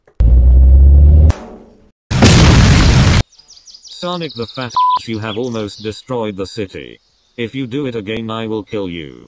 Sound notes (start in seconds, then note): 2.1 booooooomm!!!!